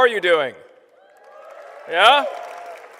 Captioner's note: applause